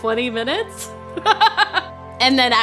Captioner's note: laughing